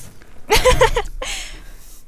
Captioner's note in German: Kichern